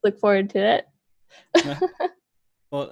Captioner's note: laughs